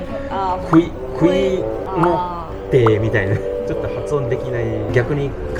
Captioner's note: click